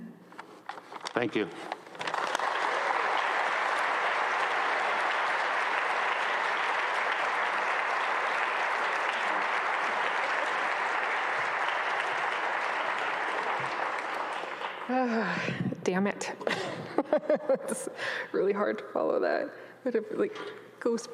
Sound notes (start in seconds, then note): 1.9 audience applauds; 15.4 laughs